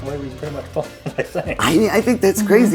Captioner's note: male speaker chuckles